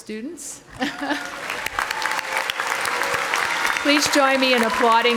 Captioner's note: audience applauding